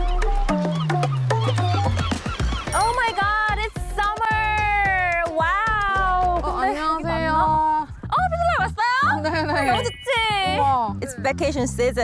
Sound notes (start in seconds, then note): 9.6 open view sound effect